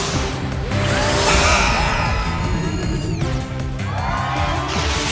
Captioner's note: buzzer blares; crowd cheers